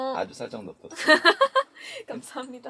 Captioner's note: haha